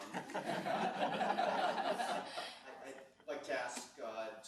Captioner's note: laughing